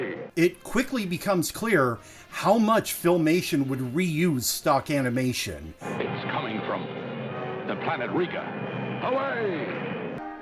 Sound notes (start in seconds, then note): none